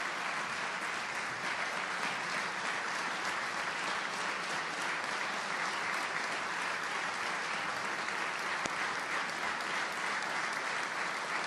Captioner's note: applause